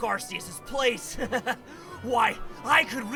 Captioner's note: sinister chuckle